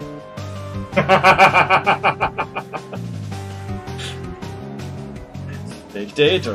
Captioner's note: laughs